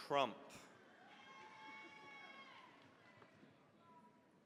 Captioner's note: cheering, applause